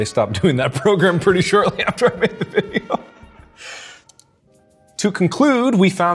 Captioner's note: laughs